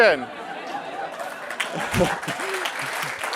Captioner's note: laugh; applause